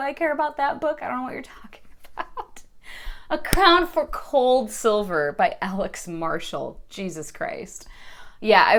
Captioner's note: more laughter